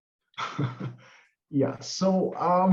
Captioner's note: chuckles